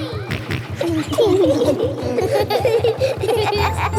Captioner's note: echoes; kids laughing; snorts